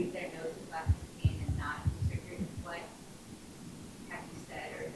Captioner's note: speaking faintly